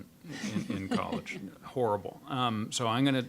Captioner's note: panelists laughing